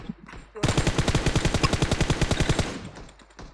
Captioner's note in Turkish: Silah sesleri